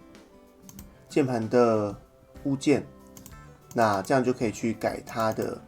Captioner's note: keyboard